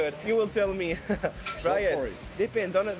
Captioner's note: chuckling